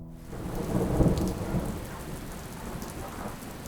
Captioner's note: storm sounds